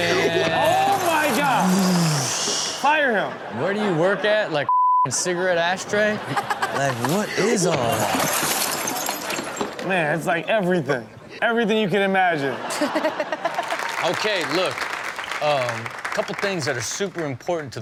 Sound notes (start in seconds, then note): 2.8 crowd laughs; 5.8 crowd laughs; 12.5 laughs